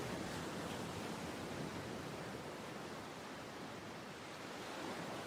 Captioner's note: waves splashing